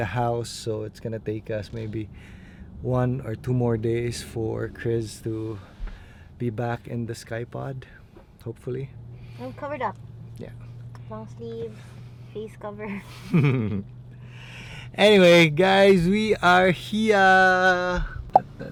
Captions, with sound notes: so it's going to take us maybe 1 or 2 more days for Kryz to be back in the Skypod. Hopefully. - I'm covered up. Long sleeves, face cover. (chuckles) - Anyway, guys, we are here!